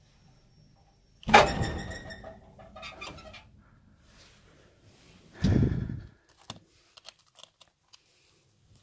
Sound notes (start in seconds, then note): 1.2 bang!